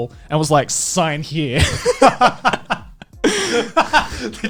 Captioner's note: laughing